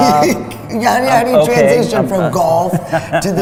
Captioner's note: laughs